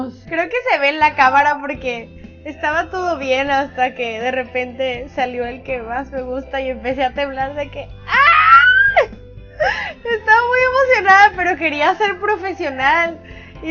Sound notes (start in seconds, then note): 8.6 excited